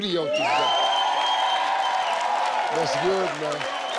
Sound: audience cheering

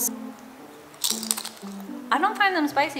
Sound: chewing

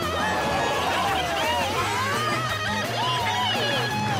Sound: all cheering

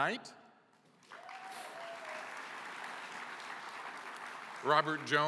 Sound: applause

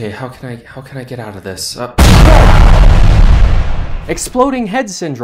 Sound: explosion!

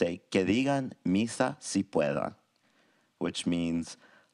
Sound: presenter speaks in a foreign language

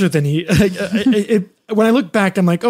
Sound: laughs

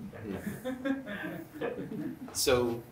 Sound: laughter

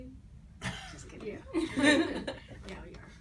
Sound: laughs

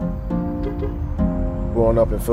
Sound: horn honks

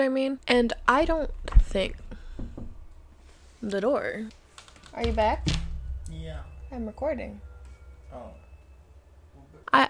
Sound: knock; door creaks as it closes

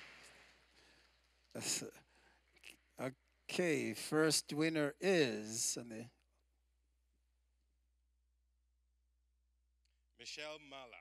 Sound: applause

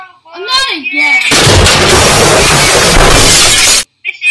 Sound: explosion

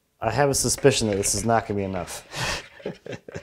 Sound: chuckles

